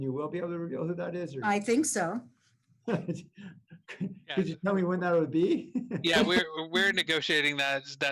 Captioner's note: laughter